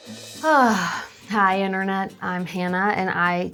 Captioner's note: sigh